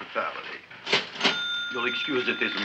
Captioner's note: cash register dings